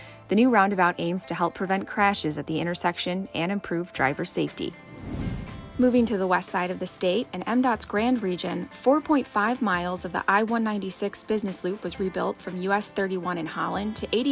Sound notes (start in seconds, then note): 4.7 swoosh sound effect